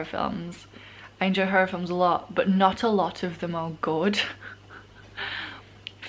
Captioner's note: laughs